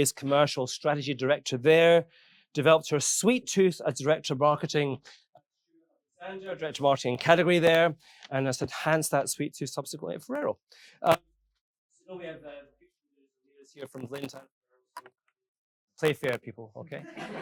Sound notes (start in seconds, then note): 16.0 audio clipping